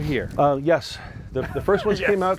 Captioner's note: laughing